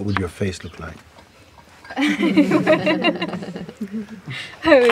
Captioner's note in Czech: smích